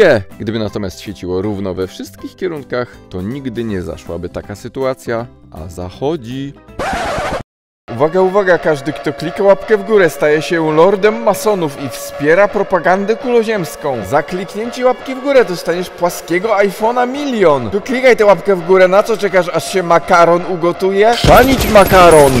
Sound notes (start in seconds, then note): 6.8 record scratch